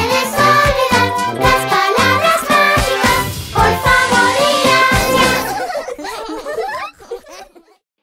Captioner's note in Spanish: Risas